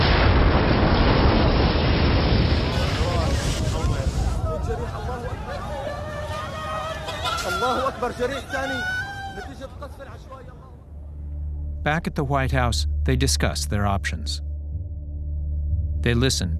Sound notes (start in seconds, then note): 0.0 explosion; 7.1 screaming